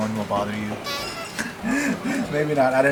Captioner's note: clown honk